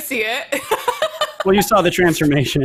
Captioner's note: laughs